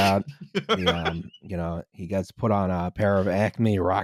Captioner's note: laughs